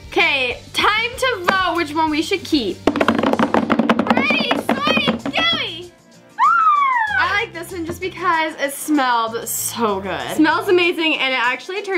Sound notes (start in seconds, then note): 2.7 drumming; 6.4 squeal